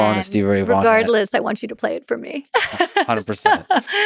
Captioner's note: laughs